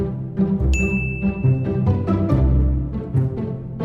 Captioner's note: dinging